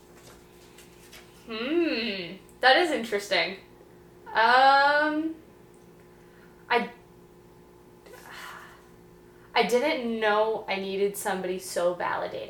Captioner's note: sighs